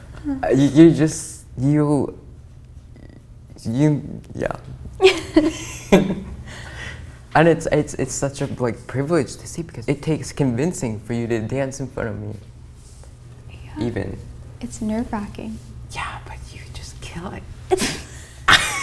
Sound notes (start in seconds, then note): 17.8 both laugh